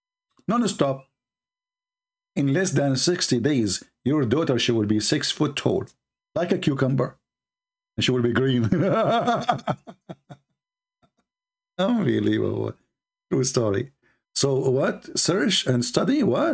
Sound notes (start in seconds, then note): 8.6 Ketawa